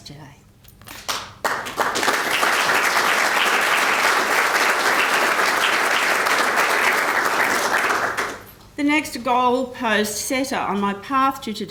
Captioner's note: applause